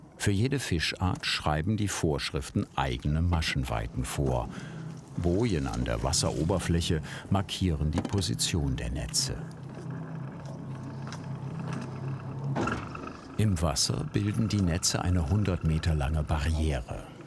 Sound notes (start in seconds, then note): 9.6 creaking